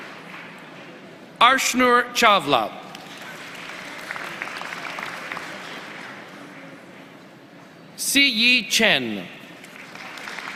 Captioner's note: applause